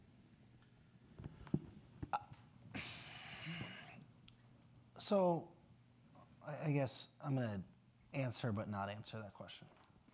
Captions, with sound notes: - (sighs) So, I guess I'm gonna answer but not answer that question.